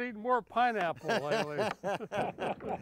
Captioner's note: group laughing